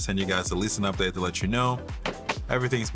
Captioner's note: thuds